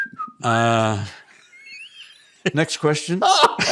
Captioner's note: whistling